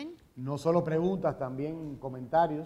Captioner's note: speaking in Spanish